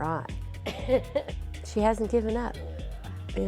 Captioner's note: laughs